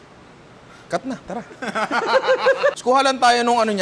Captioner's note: laughter